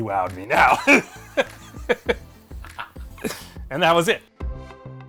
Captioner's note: laughter